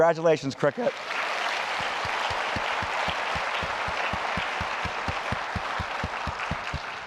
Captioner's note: applause